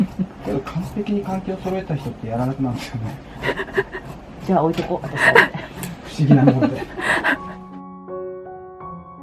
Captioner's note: chatting